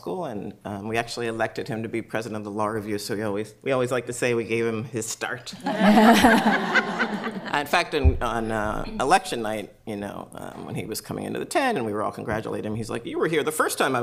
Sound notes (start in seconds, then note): 5.6 laughter